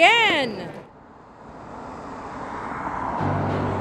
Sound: cars driving; upbeat string music

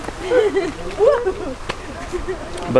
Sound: giggling

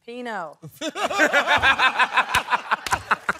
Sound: laughter

